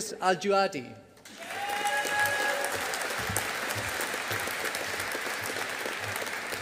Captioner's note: audience applauding